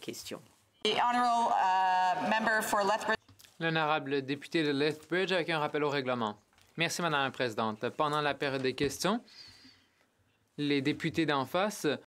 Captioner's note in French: voix de l'interprète